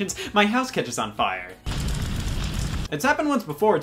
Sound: fire blazing

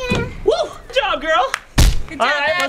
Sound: clapping hands

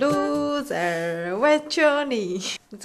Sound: Korean

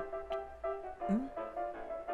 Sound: confused noise

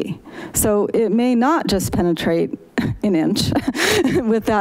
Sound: laughs

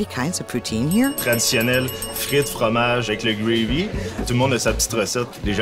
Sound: speaking in French

